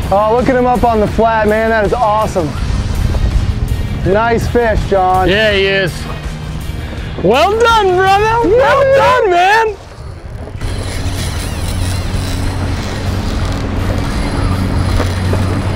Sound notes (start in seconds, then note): 8.2 whooping; 9.8 reel cranking